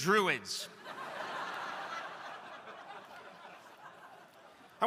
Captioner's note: crowd laughing